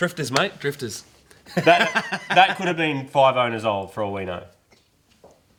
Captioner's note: laughing